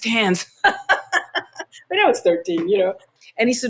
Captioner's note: laughter